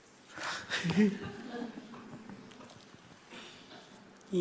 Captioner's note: laughing